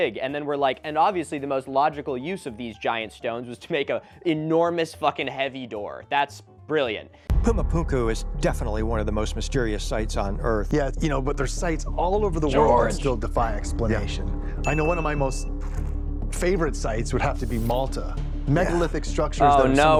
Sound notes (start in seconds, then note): 6.0 sarcastically